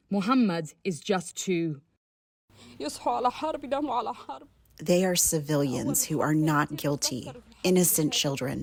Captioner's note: through translator